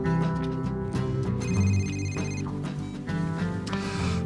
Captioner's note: CELL PHONE RlNGlNG